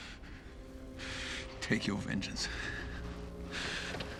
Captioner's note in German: Keuchen